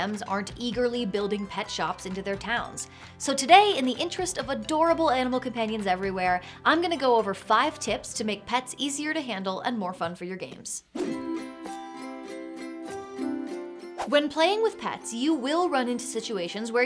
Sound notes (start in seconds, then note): 10.9 air whooshes; 11.0 calm upbeat music